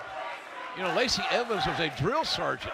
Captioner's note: fans chanting